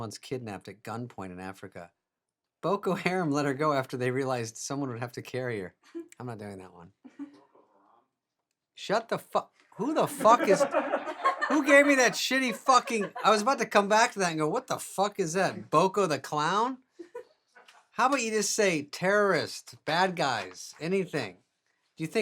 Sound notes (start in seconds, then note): 9.8 staff laughing; 17.0 woman laughing